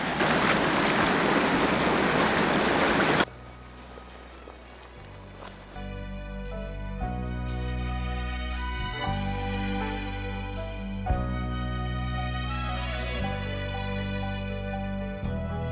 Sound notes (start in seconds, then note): 0.1 splashing boots; 3.3 quiet footsteps